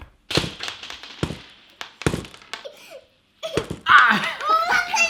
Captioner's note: thumping and clattering; giggling